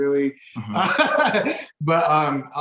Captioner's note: laughing